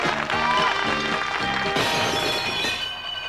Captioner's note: crash